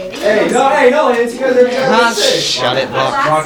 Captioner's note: arguing